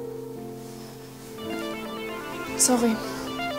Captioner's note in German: Handyklingeln